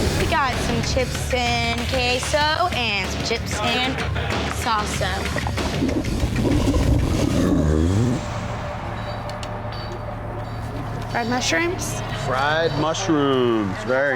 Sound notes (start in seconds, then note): 4.9 stomach gurgling